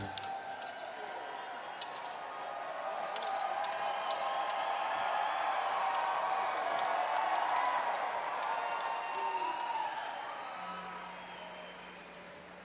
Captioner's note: applause